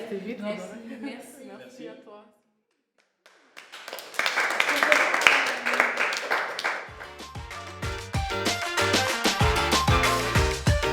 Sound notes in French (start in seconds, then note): 3.2 applaudissements